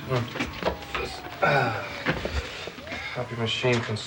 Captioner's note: grunting